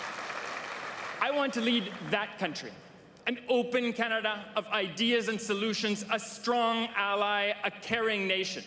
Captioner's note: cheering and Applause